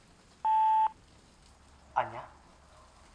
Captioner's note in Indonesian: Memutar pesan suara